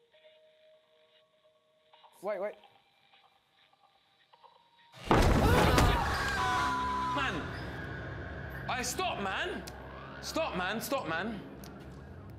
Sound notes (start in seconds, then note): 5.1 banging; 5.2 screams